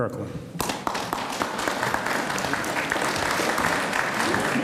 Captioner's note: audience applauds